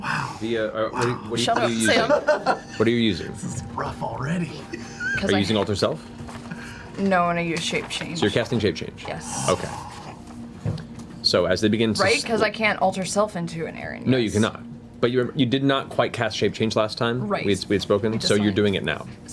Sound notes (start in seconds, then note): 4.6 laughs